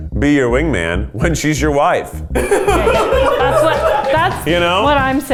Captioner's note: laughs